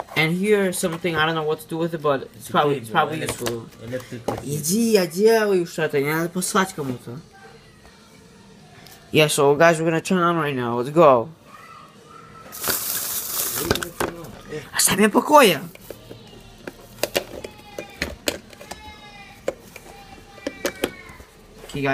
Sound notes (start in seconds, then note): 4.7 speaking foreign language; 12.5 plastic rustling; 12.7 speaking foreign language; 16.6 plastic rattling